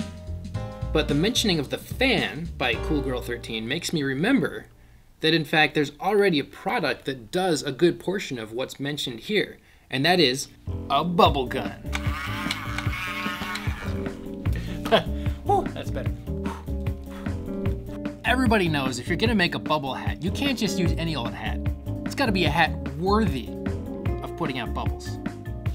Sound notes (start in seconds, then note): 11.9 bubble gun whirring; 16.3 blowing